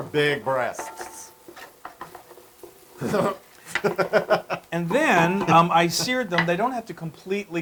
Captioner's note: laugh